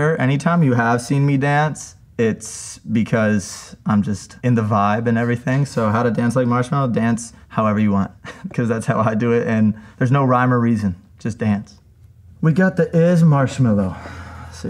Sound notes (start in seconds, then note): 8.2 chuckles